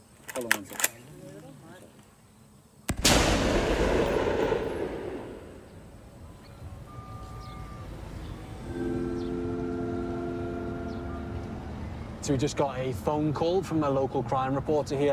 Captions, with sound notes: (GUN COCKS) (GUNSHOT) We just got a phone call from a local crime reporter here